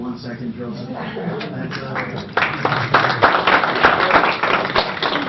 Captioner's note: applause